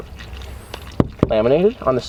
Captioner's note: knuckle knocking